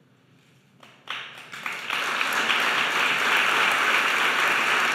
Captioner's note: audience applauding